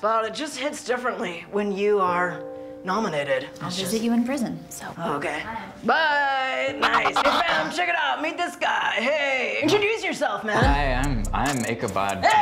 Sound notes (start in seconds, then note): 6.8 record scratch